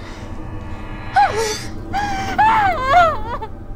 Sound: screaming

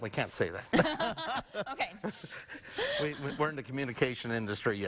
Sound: chuckling

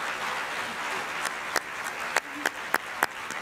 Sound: applause

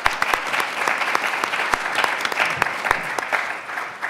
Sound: everyone applauds

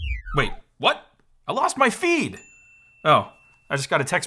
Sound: notification dings

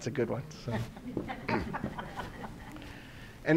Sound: audience laughing

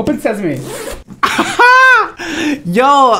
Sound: laughs

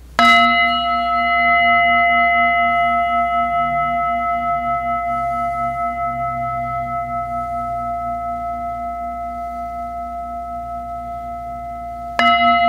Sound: singing bowl rings 3 times

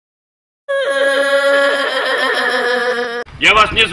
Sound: sounds of crying

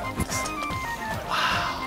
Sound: sniffs

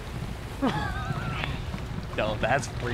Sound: laughs nervously

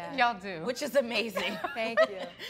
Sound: laugh

